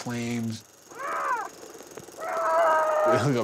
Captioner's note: screaming